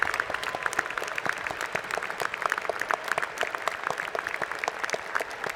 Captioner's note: applause